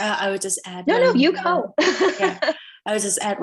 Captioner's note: laughs